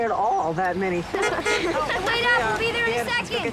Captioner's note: horn honks